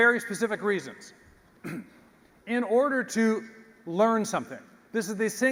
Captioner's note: cough